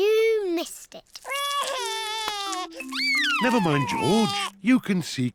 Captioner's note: sobs